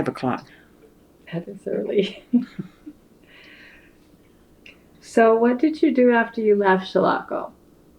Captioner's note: laughs